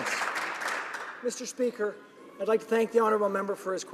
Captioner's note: some applause